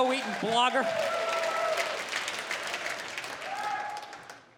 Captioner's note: applause